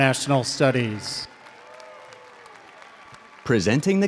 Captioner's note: audience cheers and applauds